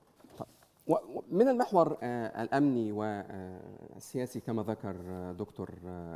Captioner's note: speaking in foreign language